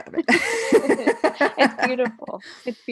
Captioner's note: laughing loudly